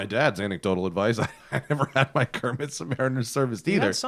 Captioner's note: laughter